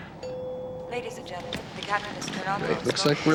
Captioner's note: bell chimes